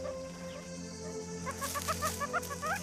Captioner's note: squeaking